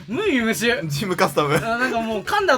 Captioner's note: laugh